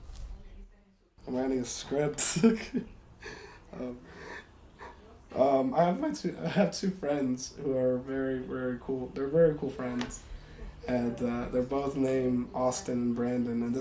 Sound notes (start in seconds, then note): 3.2 laughs